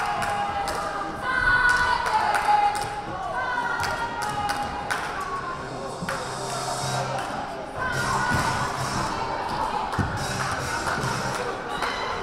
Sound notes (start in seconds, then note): 1.6 crowd; 4.3 crowd chattering